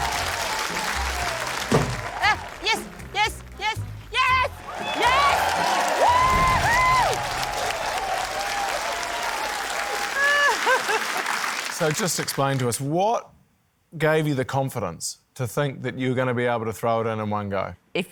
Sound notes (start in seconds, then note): 4.1 exclaims; 4.8 cheering, applause; 9.9 laughs